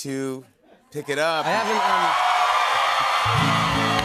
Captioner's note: cheers and applause; guitar strums